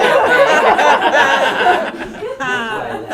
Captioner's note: laughter